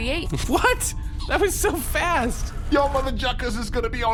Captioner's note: scraping sound